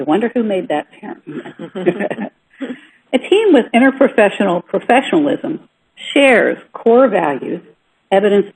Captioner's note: some of those present laugh